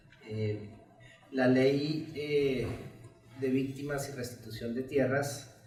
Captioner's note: speaks in Spanish